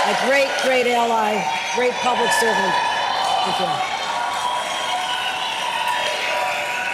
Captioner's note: applause